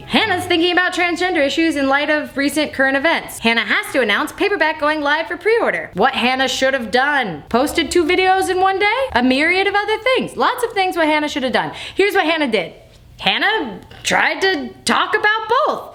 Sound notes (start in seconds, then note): none